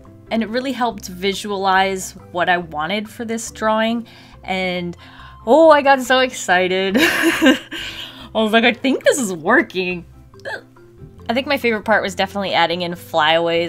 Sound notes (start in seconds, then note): 7.0 laughs; 10.4 excited gulp